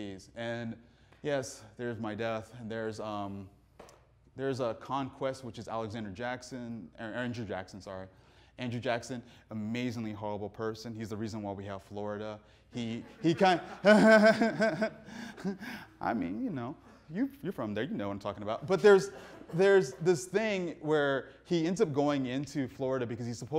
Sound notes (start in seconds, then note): 12.8 audience laughing; 12.8 laughs